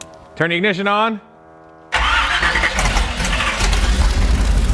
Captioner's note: engine revving